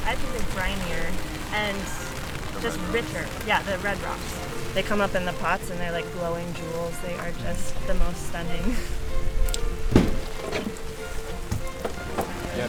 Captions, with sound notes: I think it's brinier, and just bitter. - The red rocks? - Yeah, the red rocks. They come up in the pots and they're like glowing jewels. They are just the most stunning. (chuckles) (gentle violin music)